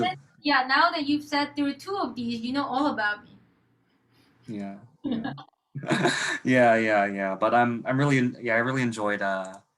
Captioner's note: laughter